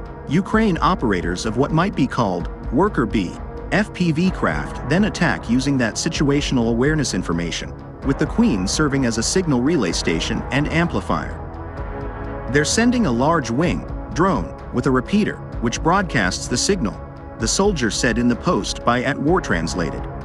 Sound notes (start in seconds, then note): 13.8 drone